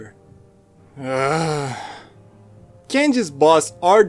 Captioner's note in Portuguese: gemido agressivo